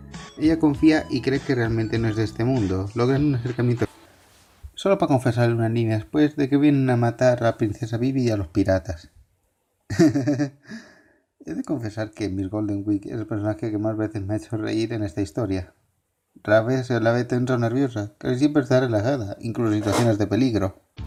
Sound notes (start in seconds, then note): 9.9 laughs